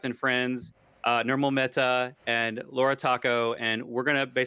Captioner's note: murmurs